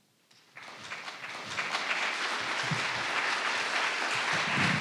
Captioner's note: audience applauding